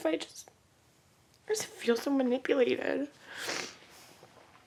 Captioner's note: sniffle